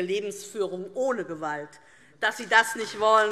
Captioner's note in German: Beifall DIE LINKE und vereinzelt SPD